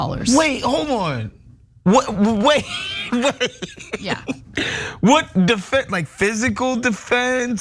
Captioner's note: laugh